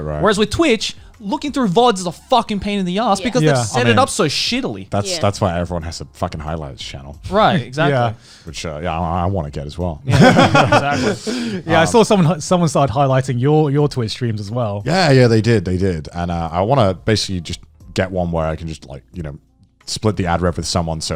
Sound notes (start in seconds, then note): 10.1 laughing